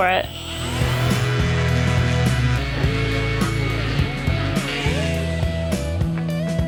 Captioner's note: sander whirring; funky music continues